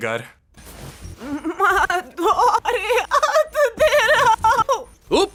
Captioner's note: voice glitching, stuttering